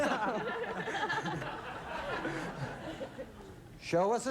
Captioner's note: audience laughs; laughter